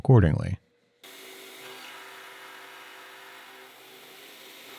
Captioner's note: machine whirring